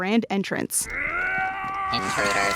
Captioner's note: shouting